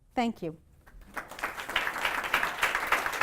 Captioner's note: applause